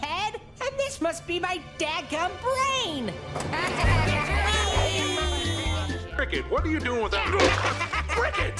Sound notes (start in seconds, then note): 3.4 laughing